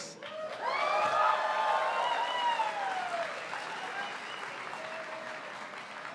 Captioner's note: audience cheers, applauds